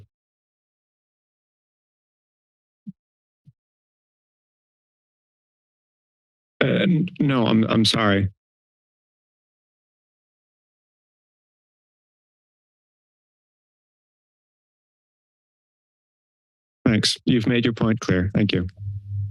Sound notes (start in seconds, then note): 0.3 pause; 8.5 pause